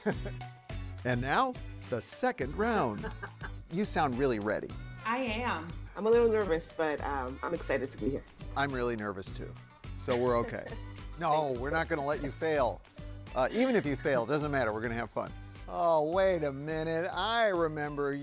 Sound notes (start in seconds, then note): 2.9 contestant laughs; 10.0 chuckles